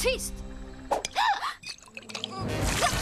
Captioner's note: gasps